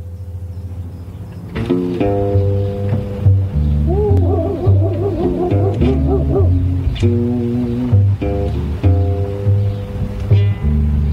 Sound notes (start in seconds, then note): 1.8 blues rock music; 1.8 dog barks; 8.1 blues rock music